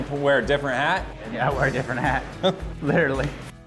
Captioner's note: chuckling